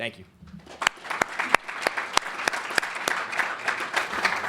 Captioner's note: applause